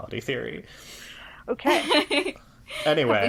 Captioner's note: laughs